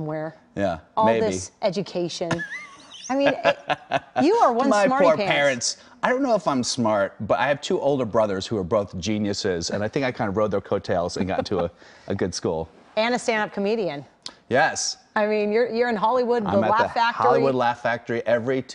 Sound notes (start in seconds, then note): 8.9 laughter